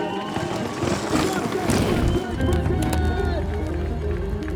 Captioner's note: crowd cheering; bike whooshing; piano music